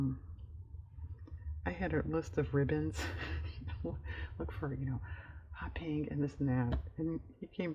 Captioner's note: laughs